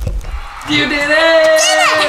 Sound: cheering

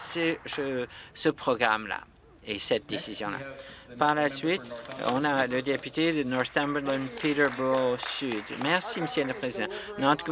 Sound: some Applause

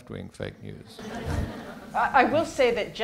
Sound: laughter

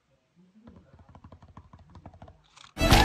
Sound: more finger taps

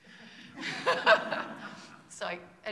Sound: laughs

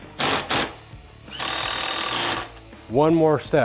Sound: mechanical whirring

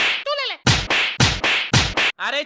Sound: fighting sound

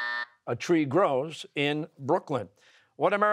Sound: buzzer

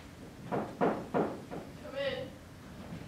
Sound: knock on door

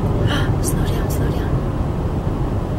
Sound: gasps

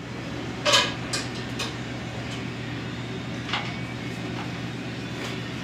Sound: sounds of cutlery on plates

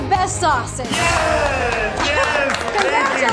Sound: cheering

